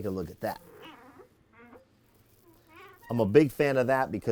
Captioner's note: furniture squeaks